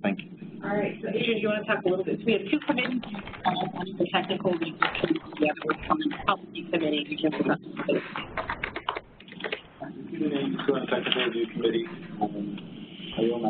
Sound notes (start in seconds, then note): 7.7 electronic distortion